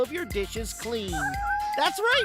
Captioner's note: kittens meowing